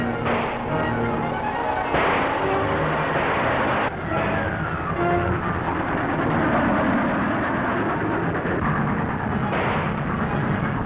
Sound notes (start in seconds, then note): 6.3 train rumbling along track